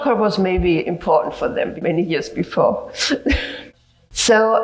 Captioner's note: laughs